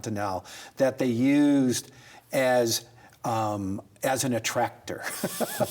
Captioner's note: both laugh